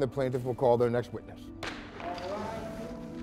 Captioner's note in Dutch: hamer knalt